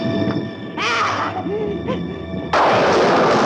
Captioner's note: panting; thunder crashing